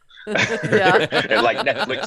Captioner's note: hosts laughing